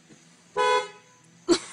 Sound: car Horn!

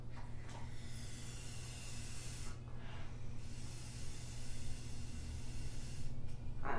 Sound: blowing up balloon

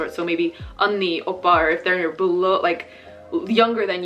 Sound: speaking Korean

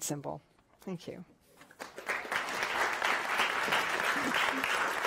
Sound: audience applauds

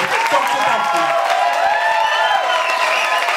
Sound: applause and cheering

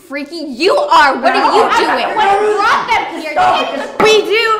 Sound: shout at each other

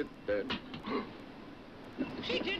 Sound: laughs

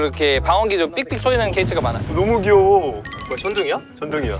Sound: rumbling thunder

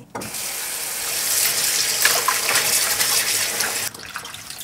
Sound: water splashing

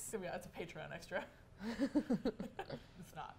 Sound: both laugh

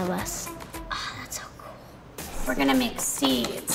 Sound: gasps

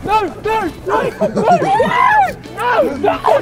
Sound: men laughing; man shouting

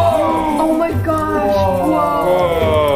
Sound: gasps

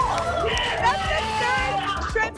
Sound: cheering

